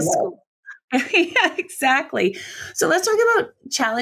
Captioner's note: laughs